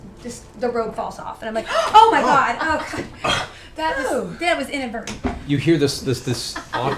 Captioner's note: gasp